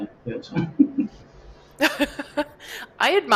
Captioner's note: laughter